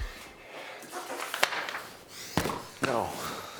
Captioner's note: paper rustling; phone continues ringing; fist pounds